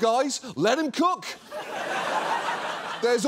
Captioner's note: audience laughs